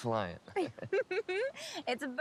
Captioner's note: both laughing